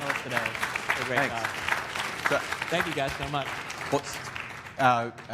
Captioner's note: applause